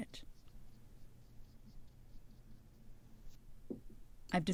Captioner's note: tapping brush strokes